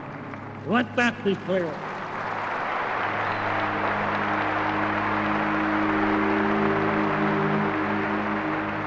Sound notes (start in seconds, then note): 1.7 crowd applauding